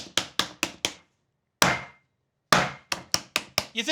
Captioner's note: tapping; bang; tapping